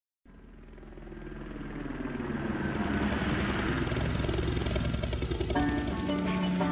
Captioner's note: airplane engine revving and propellers turning